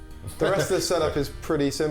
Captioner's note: laughs